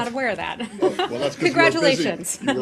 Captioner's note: laughter